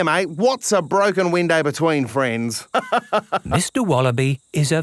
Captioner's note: laughs